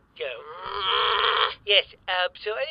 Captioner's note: annoyed sound